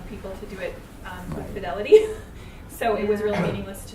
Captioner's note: laughs